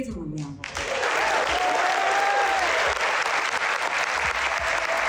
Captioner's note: cheering and applause